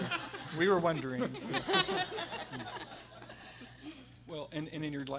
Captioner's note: everyone laughing